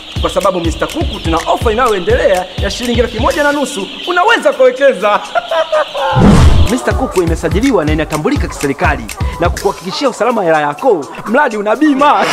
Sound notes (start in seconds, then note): 4.9 chuckles